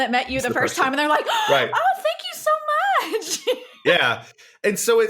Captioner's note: laughs